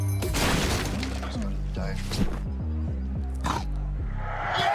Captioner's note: boards cracking